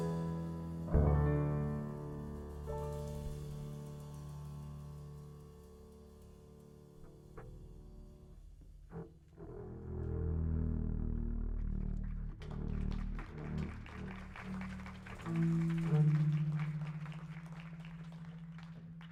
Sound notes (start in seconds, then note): 3.5 mellow music ends; 11.9 audience applauding